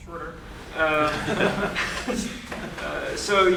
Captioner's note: laughter